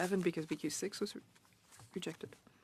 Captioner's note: speaking French